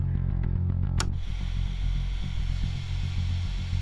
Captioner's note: TV clicking on to static